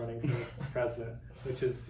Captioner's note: laughs